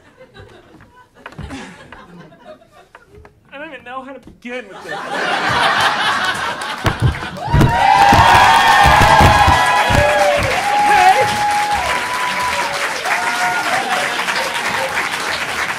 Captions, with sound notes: I don't even know how to begin with this! [audience laughing] [audience cheering] Okay?!